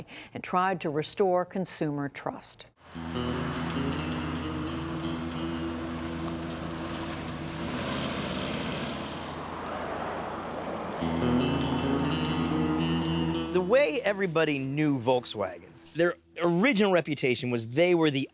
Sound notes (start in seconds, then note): 2.9 soft music; 2.9 Beetle engine rumbling